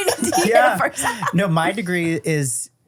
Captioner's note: everyone laughs